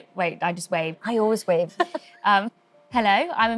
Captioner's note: laughs